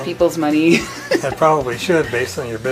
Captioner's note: laughs